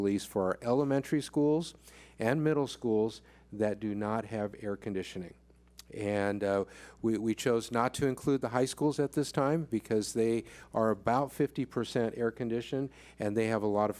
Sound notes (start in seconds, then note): none